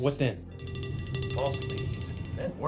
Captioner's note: phone ringing